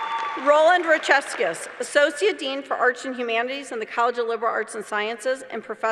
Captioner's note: applause